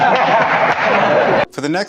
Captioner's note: everyone laughs